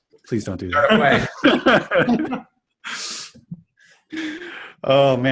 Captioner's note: everyone laughing